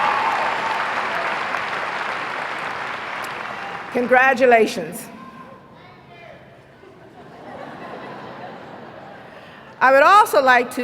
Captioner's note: applause